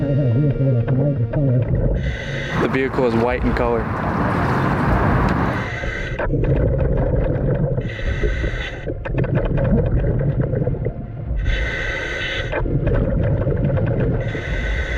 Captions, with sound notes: I do have a vehicle that's white in color. - The vehicle is white in color. (mouthpiece hissing) (suspenseful music)